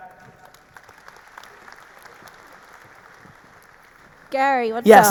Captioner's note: audience applauding